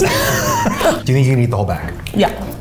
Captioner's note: all laughing